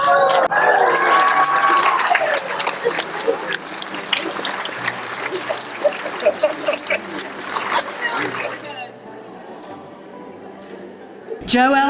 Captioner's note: cheering